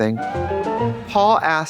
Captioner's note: bright chime